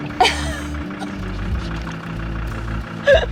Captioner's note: laughing